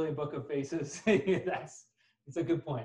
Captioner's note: laughs